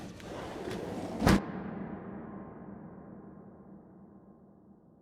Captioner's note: gentle suspenseful music continues; door thuds